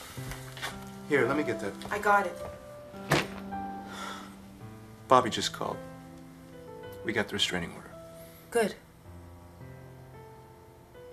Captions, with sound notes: HERE, LET ME GET THAT. I GOT IT. [ Dropping of suitcase ] [ Sighing ] BOBBY JUST CALLED. WE GOT THE RE- STRAINING ORDER. GOOD.